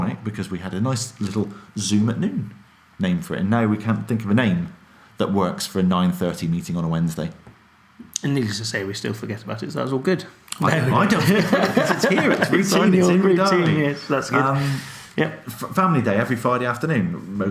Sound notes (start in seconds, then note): 10.7 laughs